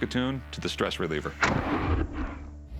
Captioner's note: boom